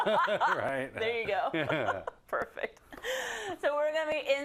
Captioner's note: laugh